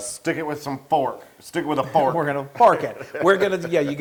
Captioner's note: laugh